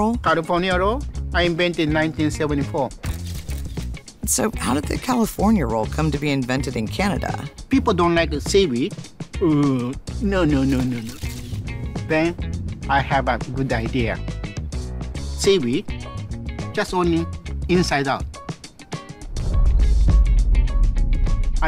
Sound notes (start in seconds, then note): 3.0 camera snapping; 9.4 chef grunting in disgust; 18.8 lively music